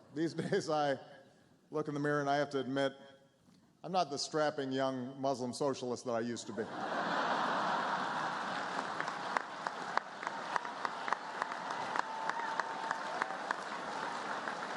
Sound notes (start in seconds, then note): 6.5 laughter